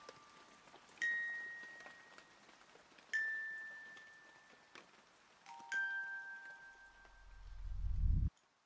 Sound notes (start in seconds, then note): 1.5 gentle twinkling music; 1.5 rain pattering